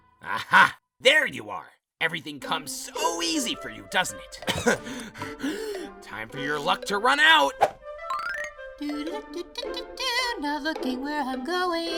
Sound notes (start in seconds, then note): 4.4 coughs and gasps